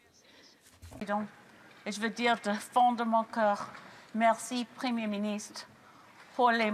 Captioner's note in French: voix de l'interprète